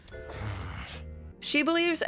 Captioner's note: Jax groans